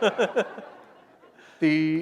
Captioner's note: laughter